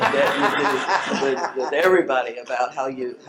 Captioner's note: all laugh